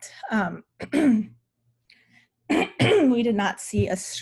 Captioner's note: clears throat